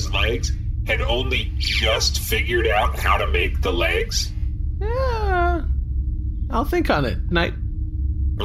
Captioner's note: hesitant